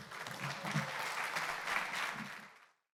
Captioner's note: applause